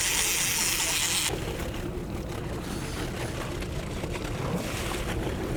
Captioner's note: boat engine whirs